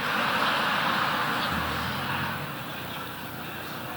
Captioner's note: audience laughing